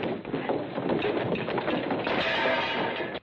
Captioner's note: clattering, shattering